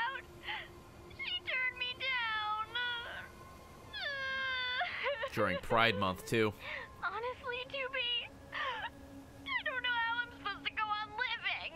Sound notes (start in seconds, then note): 3.9 cries